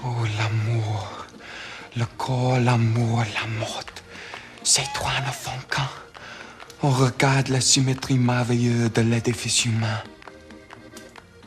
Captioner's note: speaking french